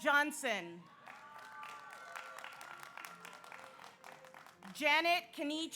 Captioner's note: audience cheers; audience applauds